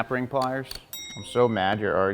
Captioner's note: bell dings